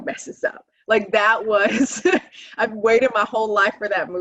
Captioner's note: laughing